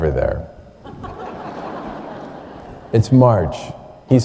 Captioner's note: laughter